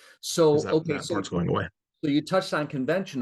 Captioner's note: both chattering